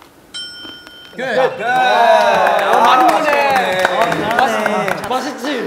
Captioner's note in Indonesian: tepuk